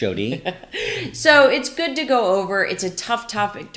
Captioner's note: laughs